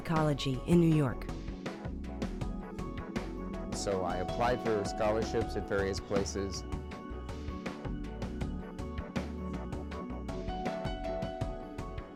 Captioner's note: ASL interpreter voices